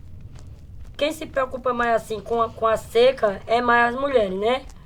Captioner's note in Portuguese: passos distantes